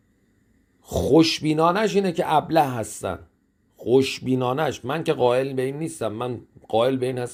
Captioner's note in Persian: صدای خرناس